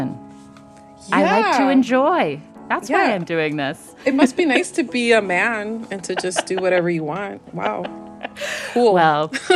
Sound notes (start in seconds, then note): 3.5 laughter; 7.5 laughter